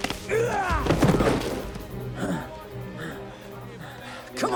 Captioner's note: fighters grunting